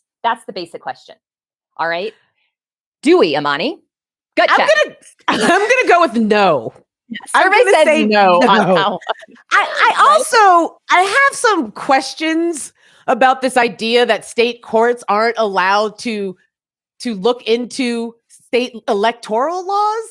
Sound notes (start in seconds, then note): 7.7 laughs